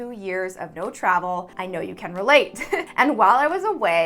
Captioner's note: giggles